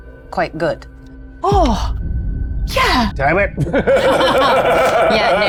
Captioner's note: laughs